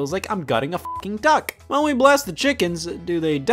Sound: beep

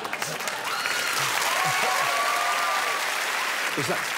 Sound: crowd applauds and cheers

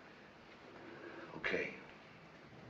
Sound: exhales

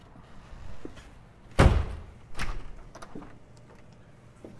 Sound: door closes

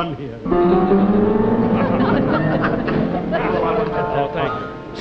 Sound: audience laughing

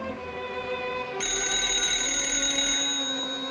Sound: phone rings

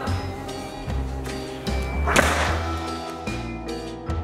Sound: door thuds; spooky music

